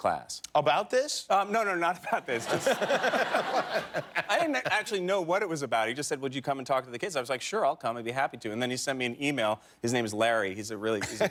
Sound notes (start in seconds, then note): 4.1 laughter